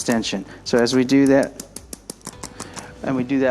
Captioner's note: ArthroStim rapidly clicking